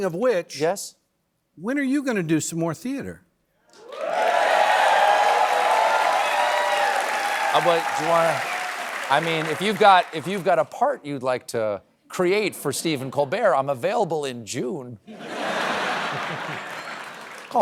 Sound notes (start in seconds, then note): 3.7 cheering and applause